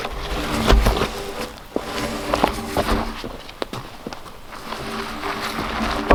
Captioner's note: log rumbling; log sliding